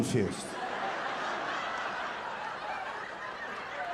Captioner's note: audience laughing